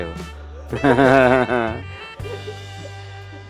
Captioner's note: laugh